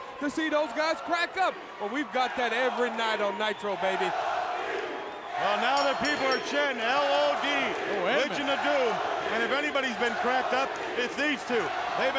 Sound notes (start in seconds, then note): 5.7 bell dinging